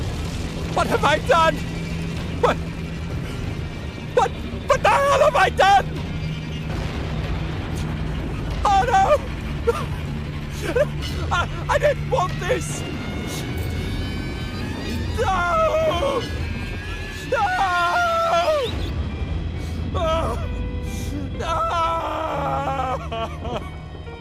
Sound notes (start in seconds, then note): 5.8 storm; 6.4 menacing music; 10.4 sobs; 14.8 anguished screams